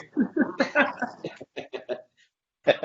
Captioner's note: chuckles